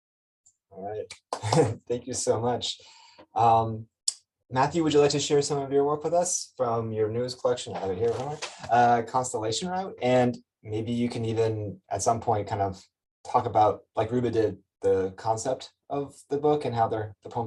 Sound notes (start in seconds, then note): 1.3 chuckles